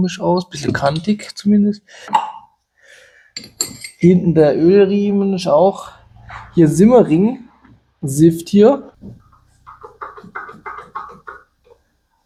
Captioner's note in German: gelächter